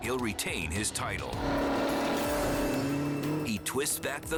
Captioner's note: engine revving